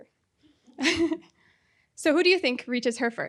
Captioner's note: chuckles